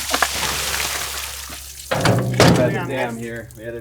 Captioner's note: water splashing